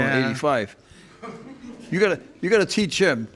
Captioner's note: crowd laughing